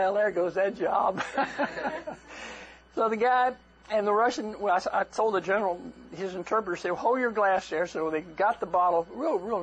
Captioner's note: laughter